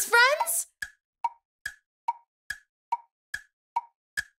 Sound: clock ticking

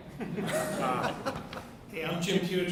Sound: audience laughs

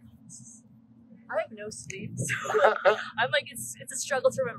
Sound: laughter

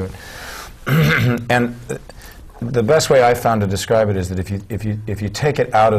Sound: clears throat

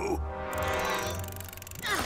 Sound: straining

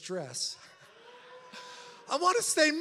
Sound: audience laughs

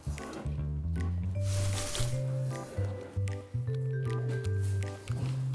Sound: rustling

